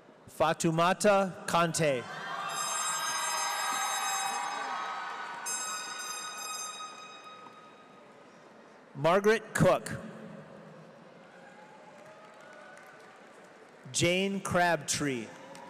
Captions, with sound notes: Fatamouta Conteh. (audience cheers) (horn shrieking) Margaret Cook. Jane Crabtree.